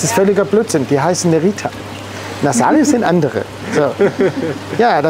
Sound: laughter offstage

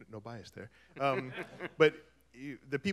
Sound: laughter

